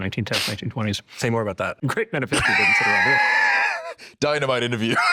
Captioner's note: laughs